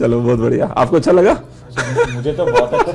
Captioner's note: laughing